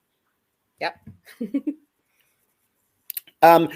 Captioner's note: chuckles